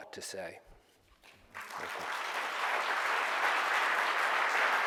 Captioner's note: audience applause